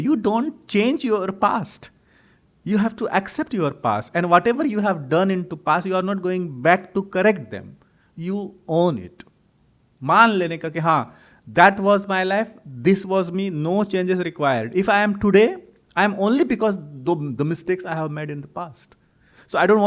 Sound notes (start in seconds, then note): 9.1 hindi